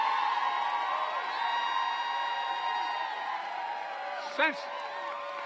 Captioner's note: applause